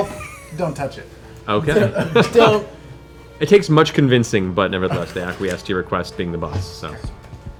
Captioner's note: laughs